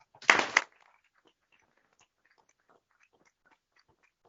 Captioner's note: applause